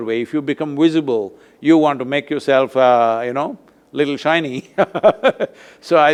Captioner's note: laughs